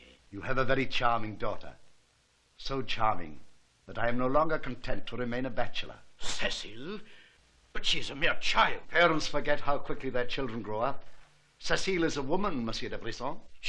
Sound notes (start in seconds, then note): none